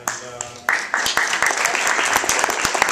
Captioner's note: audience applause